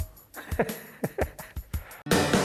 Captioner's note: laughs; upbeat music